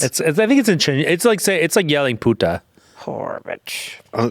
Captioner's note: speaking foreign language